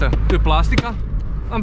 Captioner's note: smack